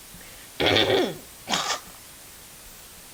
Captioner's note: clearing my throat before comedy ensues